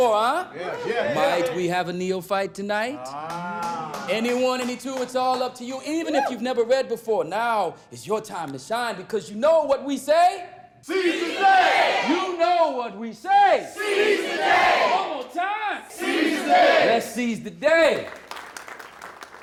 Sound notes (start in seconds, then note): 10.8 crowd; 17.8 applause